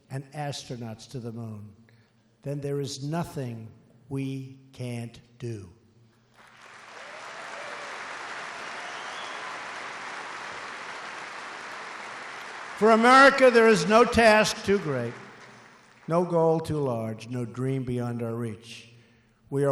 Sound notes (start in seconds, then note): 6.3 applause